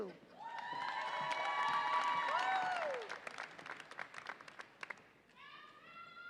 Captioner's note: audience applauds and cheers